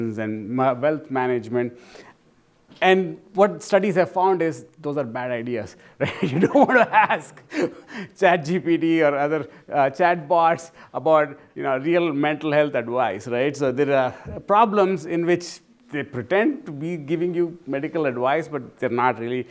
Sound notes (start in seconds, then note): 6.1 laughs